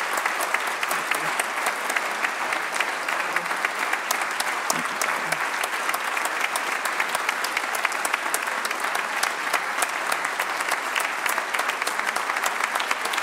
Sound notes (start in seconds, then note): 1.9 applause